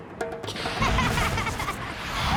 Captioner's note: laughing